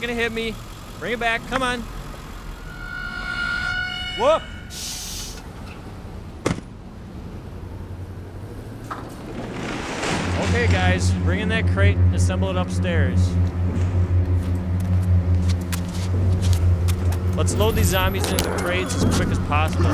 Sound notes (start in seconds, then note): 1.7 tense music; 4.1 truck hisses; 6.4 truck door slams; 8.8 truck door clatters